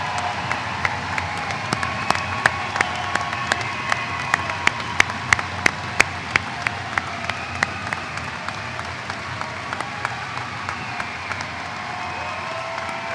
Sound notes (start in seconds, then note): 0.0 applause